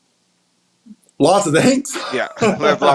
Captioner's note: laughs